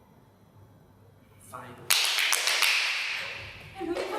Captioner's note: OPHELIA claps in glee